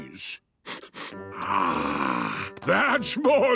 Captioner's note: sniffs